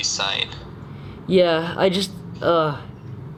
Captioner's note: sighs